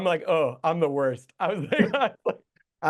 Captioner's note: guest chuckles